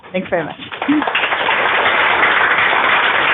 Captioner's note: applause